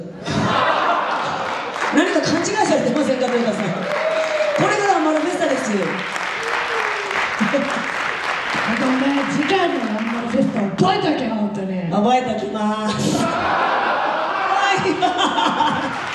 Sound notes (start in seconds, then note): 0.2 laughs; 6.2 applause; 12.9 laughs; 15.6 applause